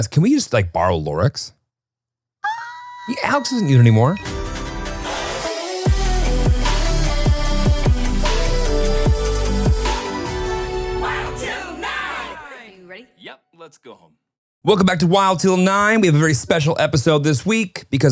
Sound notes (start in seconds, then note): 2.4 shouting; 4.5 upbeat sound